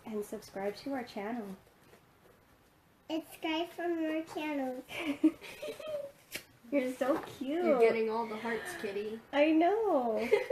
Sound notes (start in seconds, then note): 4.9 laughing; 6.2 smooching; 10.2 laughs